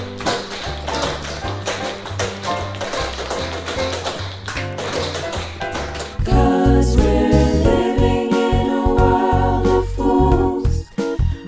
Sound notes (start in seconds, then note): 0.1 cheerful music; 2.5 tap shoes clacking